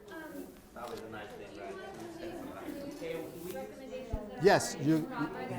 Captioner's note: people chattering